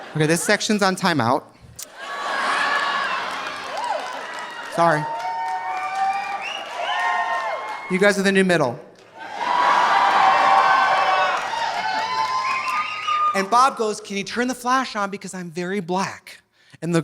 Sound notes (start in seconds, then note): 1.9 audience laughing; 1.9 audience applauding; 9.0 audience cheering; 9.3 audience laughing